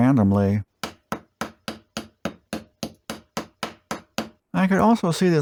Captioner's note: tapping sounds